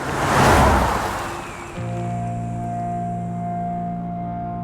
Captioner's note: car zooming